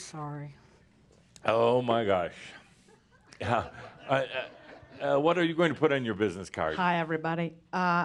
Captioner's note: some chuckles